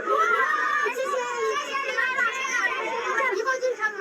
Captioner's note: scream